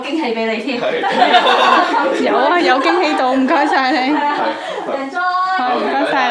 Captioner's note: 3 laughing